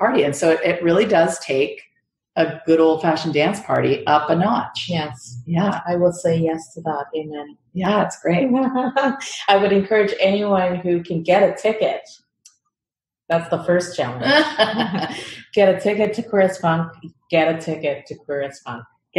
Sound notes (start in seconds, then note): 9.2 laughs